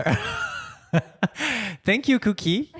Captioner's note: laughing